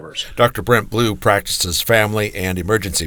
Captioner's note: voiceover